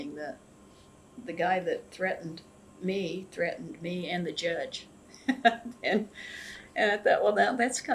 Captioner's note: laughs